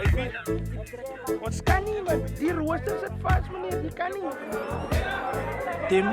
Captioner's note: speaking afrikaans